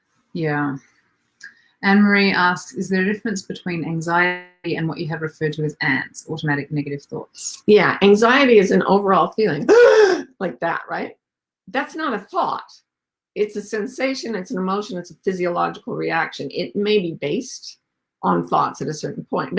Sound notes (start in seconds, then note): 9.6 gasps dramatically